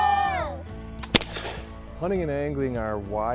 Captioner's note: gun popping